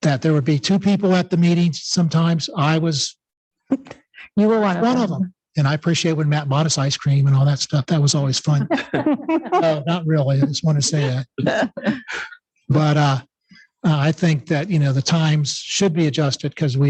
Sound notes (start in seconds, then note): 8.0 members laughing